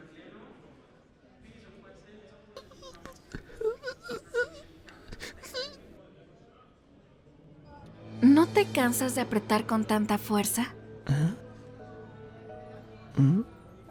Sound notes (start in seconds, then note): 2.6 woman crying